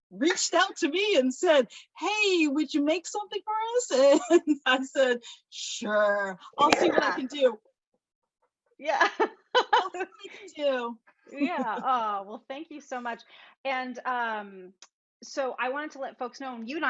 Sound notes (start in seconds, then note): 9.6 laughs